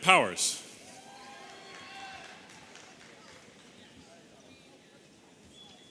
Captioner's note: audience cheering